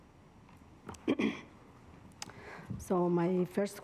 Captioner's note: director clears throat